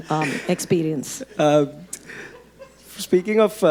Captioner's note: audience laughing